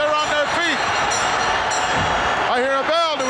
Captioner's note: bell ringing